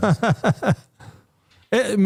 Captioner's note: laughing